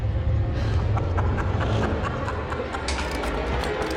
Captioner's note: laughing